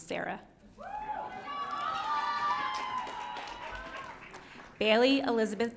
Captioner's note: audience cheering